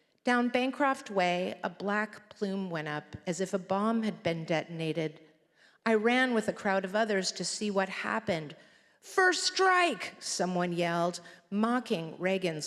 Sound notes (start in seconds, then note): none